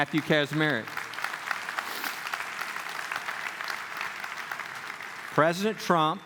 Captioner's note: clapping